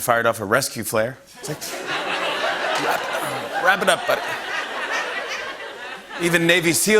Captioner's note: laughter